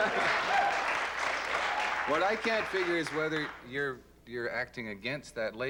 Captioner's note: applause and laughter